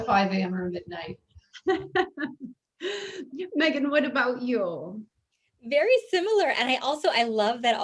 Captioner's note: laughs